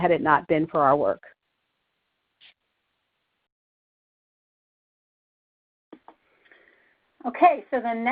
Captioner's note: silence